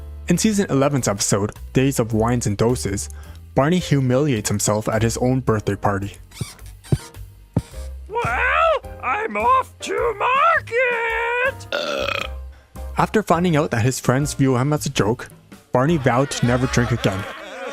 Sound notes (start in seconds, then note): 11.7 burp